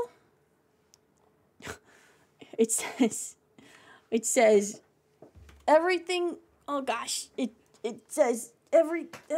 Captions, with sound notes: [Laughs] It says- It says- Everything- Oh gosh. It- It says-